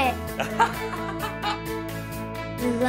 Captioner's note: laughs